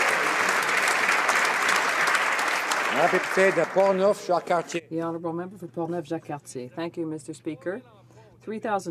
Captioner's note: some Applause